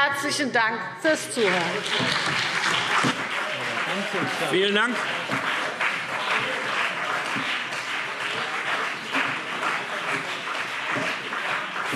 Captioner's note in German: Anhaltender Beifall CDU und BÜNDNIS 90/DIE GRÜNEN